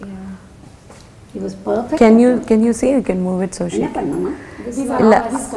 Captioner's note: indistinct Chatter